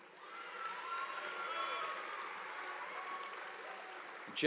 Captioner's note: audience applauding